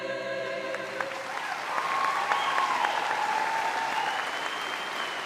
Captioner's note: audience applauds and cheers